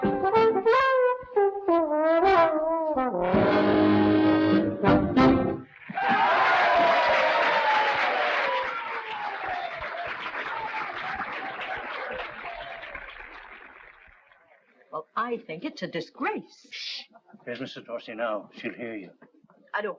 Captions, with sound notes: (audience applauding) (audience cheering) - Well, I think it's a disgrace. - Shh. There's Mrs. Dorsey now. She'll hear you.